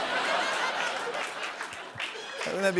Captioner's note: cheers and applause